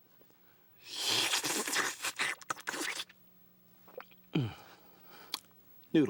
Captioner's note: slurping